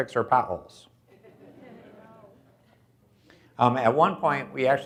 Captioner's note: audience laughs